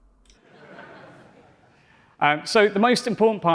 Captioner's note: laughter